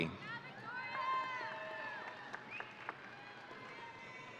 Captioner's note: audience cheering